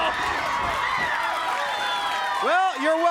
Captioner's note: crowd cheering; crowd chatter